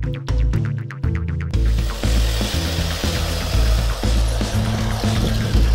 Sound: whirring

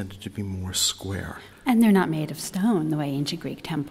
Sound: voiceover

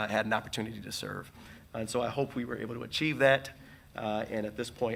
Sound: none

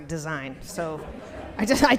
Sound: audience laughs

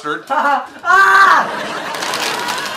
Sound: screams; audience laughs

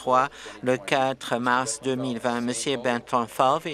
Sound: none

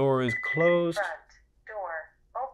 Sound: beeps

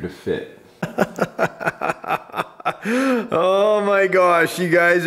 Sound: laughing

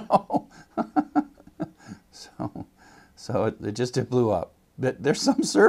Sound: laugh

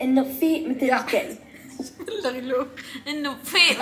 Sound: laughing

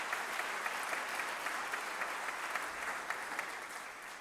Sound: applause

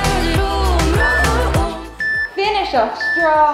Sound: timer beeping

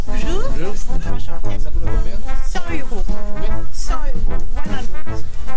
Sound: fluent French

